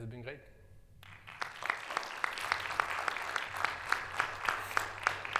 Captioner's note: audience applauding